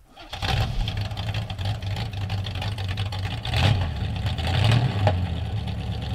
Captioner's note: car starting